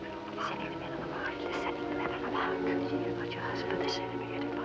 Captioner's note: women whispering